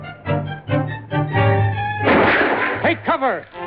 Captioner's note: gunshot